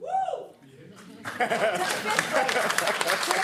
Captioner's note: applause